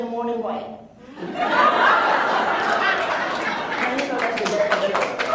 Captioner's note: laughs